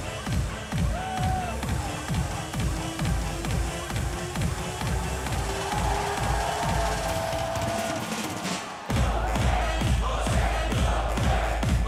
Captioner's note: crowd cheering